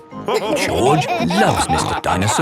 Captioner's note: all laughing